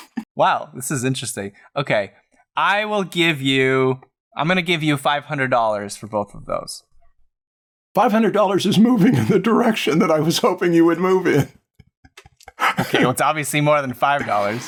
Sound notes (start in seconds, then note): 11.7 laughter